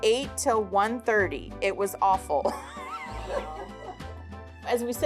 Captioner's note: laughs